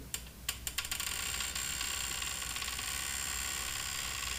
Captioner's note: lift grinds